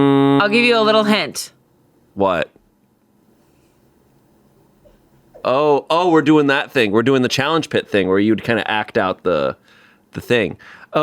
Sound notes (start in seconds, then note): none